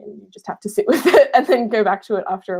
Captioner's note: laughing